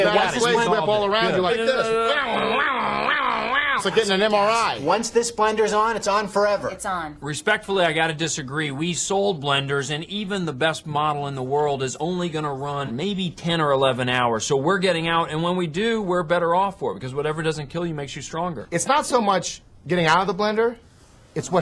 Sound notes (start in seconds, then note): 2.2 whizzing